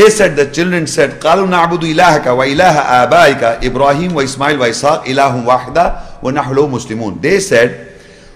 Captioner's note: Arabic